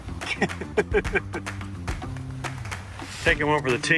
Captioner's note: laughing